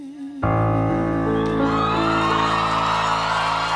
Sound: cheering

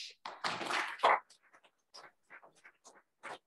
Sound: applause

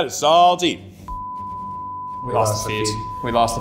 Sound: beep

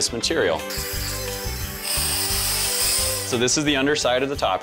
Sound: whirring noise

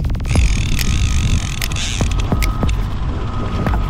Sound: reel clicking

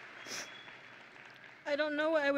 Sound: sniffles

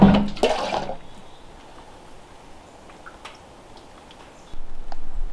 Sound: birds chirping

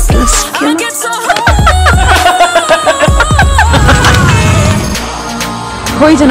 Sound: evil laugh

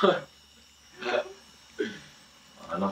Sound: laughing

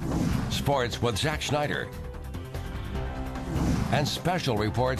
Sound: voiceover

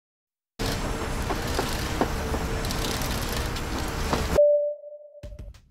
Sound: construction sounds

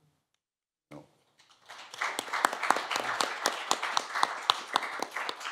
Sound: applause

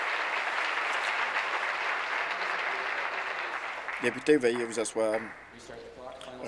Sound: applause

